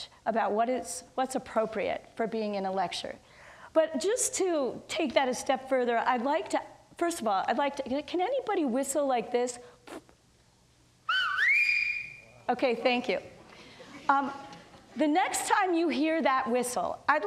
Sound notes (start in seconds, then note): 11.0 person whistles; 13.9 audience laughs